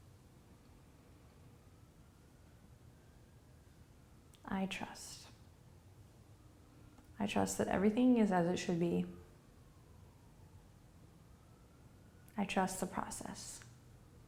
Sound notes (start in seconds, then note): none